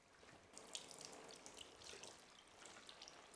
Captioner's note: liquid dripping